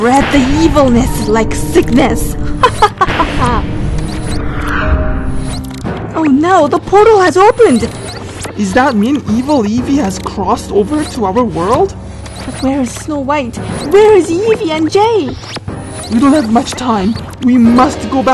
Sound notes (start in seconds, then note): 2.6 laugh